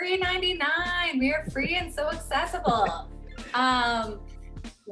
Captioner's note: chuckle